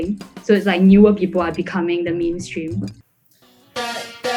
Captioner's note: laughs